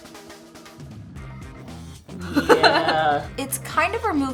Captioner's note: laughter